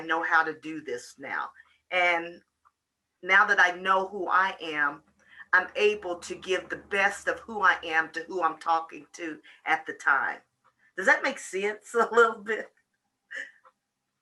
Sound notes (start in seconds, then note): 12.6 laughs